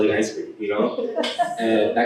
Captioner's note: laughter